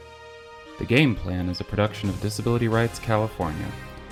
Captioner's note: voiceover